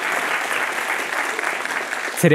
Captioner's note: applause